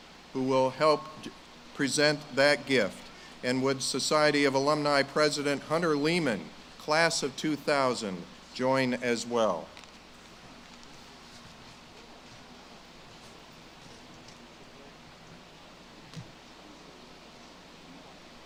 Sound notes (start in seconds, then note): none